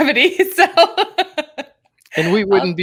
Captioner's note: laughing